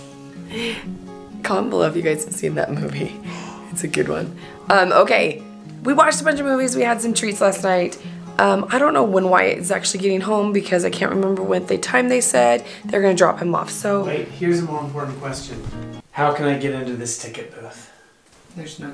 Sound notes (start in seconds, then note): 0.5 laughing; 3.2 dad gasping